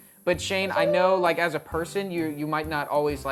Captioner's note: none